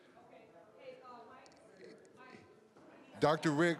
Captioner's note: scattered chatter